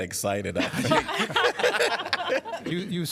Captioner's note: laughter